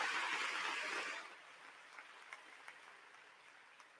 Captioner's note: applause